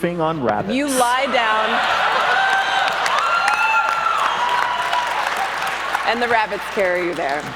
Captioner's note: audience cheers and claps